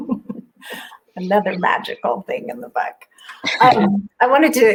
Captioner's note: laughs